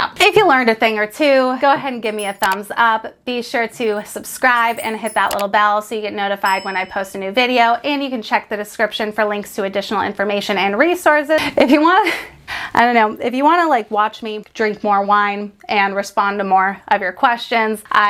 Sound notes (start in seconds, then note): 2.0 bell dings; 6.4 bell dings